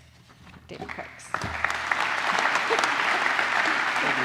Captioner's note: applause